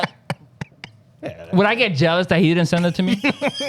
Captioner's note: laughing